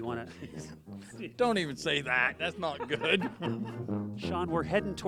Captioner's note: laughs